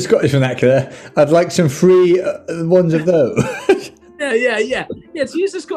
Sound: laughing

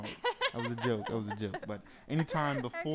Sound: laughing

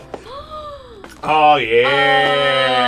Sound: gasps

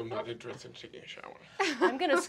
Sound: laughter

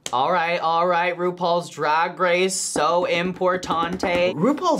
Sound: voice-over; drums fingers

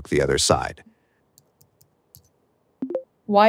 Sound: keyboard clicking; speech activation sound

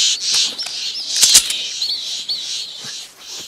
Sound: sound of weapon being cocked

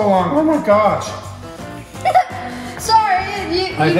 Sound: laughing

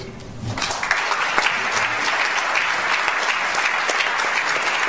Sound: audience applauds

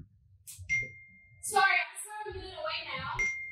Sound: text tone

